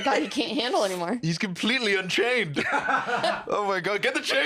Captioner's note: laughs